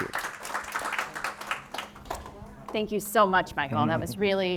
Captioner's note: audience applauding